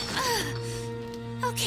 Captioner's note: pained groan